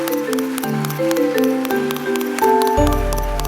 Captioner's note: applause